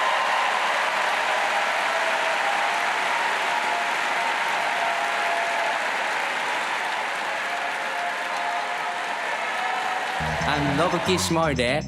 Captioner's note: laughter; applause